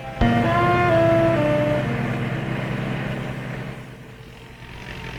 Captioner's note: car engine revving